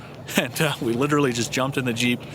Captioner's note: giggles